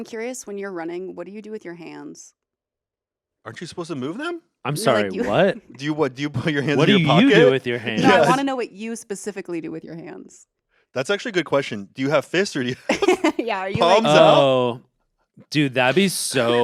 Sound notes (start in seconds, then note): 12.6 laughs